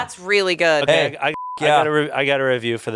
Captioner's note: beep